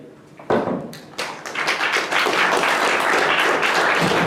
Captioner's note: applause